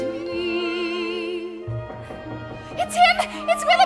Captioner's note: knocking on door